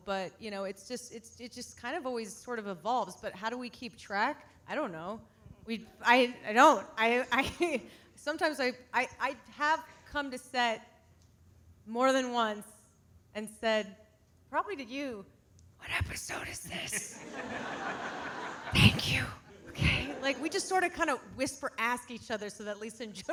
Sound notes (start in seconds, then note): 17.1 audience laughing